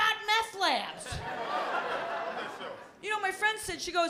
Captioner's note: laughter